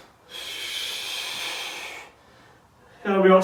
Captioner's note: exhales sharply